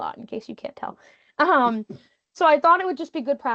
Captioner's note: chuckling